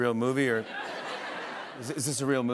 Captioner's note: laughter